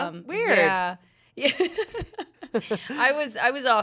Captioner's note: laughs